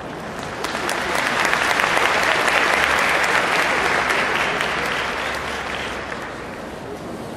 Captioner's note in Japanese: 拍手